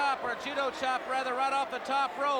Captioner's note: crowd cheering